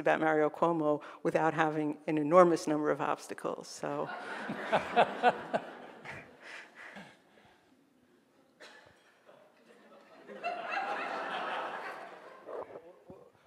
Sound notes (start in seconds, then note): 4.1 audience laughing